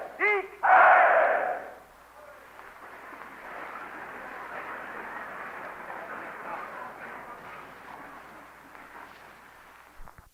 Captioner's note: applause